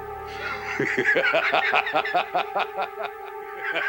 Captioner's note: laughing